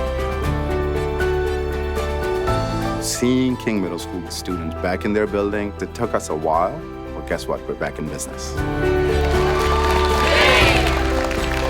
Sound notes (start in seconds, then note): 9.0 cheering; 11.4 applause